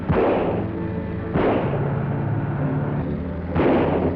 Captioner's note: gun shots